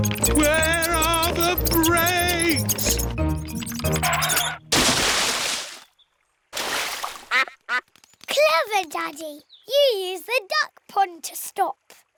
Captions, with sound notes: Where are the brakes? (QUACKS) Clever Daddy. You used the duck pond to stop.